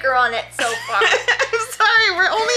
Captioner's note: laughs